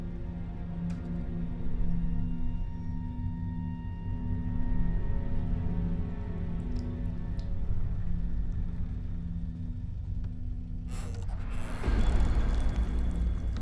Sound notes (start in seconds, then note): 6.5 liquid dripping; 10.7 startling music; 10.8 door creaks